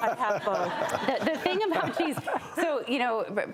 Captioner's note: audience laughs; laughing